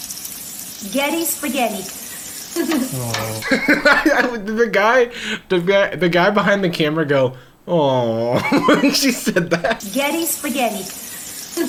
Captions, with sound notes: Getti Spaghetti. (chuckles) (laughing) - The guy behind the camera go "awww" when she said that. (laughing) - Getti spaghetti.